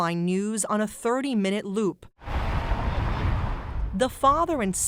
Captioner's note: traffic humming